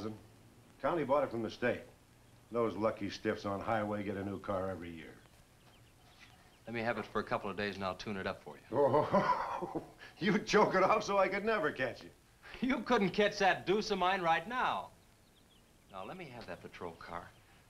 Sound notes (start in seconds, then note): 8.7 chuckles